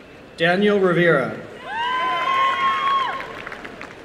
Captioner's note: applause